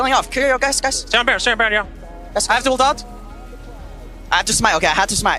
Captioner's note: teammates communicating